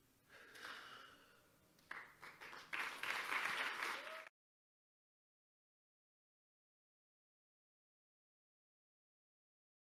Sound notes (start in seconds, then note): 1.8 audience applauding